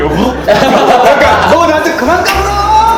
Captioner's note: laughing